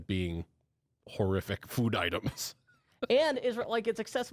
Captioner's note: laughs